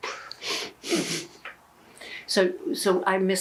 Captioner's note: laughing